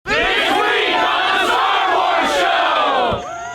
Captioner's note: crowd